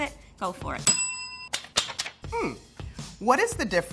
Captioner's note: bell dinging